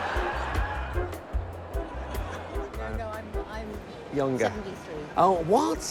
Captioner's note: laughter